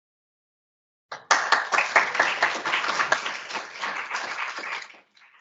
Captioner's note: audience applauds